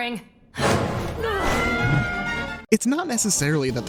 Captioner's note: screams